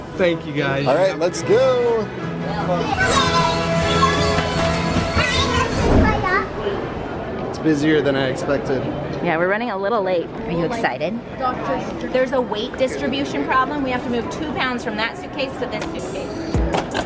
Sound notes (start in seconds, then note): 3.0 children cheering; 3.0 bold orchestral music; 15.8 upbeat music